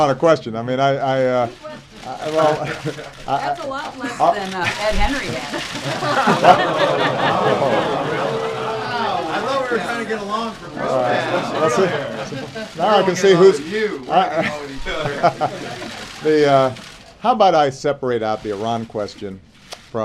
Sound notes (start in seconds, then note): 1.1 chuckles; 2.1 laughter, groans; 15.7 chuckles